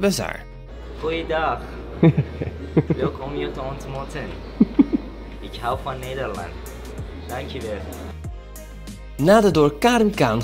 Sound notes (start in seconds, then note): 1.1 speaks some Dutch lines